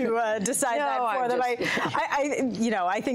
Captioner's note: laughter